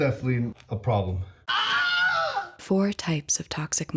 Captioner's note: scream